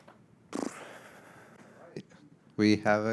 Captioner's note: exhaling deeply